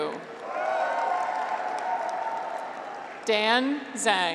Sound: graduates cheer

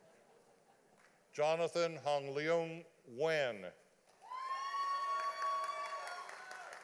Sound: audience applauding

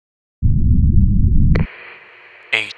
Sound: walkie-talkie Static

